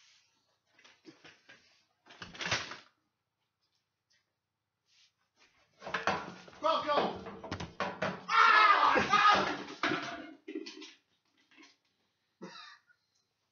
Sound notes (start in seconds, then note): 8.2 blood curdling scream